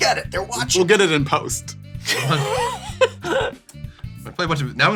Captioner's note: laughter